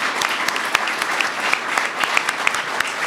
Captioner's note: applause